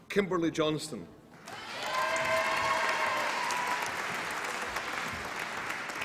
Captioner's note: applause and cheering